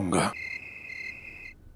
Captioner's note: insects chirping